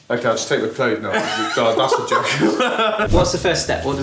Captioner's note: laughs